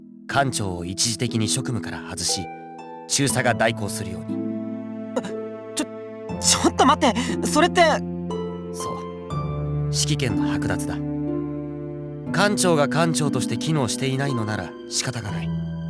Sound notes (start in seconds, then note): 5.6 gasp